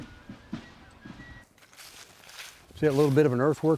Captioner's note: leaves crunching